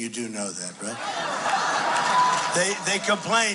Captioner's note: crowd cheering